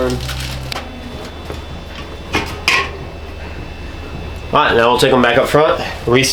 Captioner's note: ice Clinking